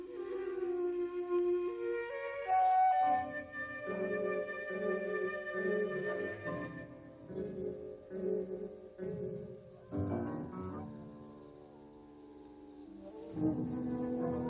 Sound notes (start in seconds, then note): 0.0 light music; 10.1 wolf howling